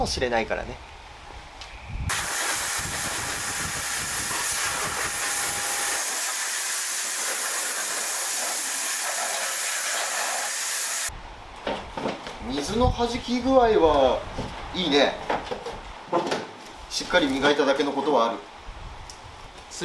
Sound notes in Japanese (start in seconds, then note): 2.1 シャワー音